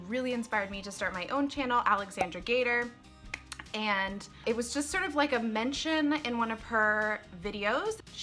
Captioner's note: cork pop